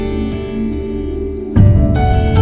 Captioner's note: Door opens